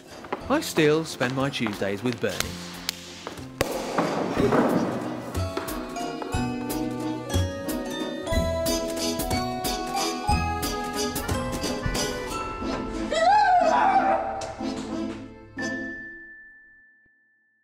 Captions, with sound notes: 'I still spend my Tuesdays with Bernie' [CHAMPAGNE BOTTLE POPS] [SCREAMING]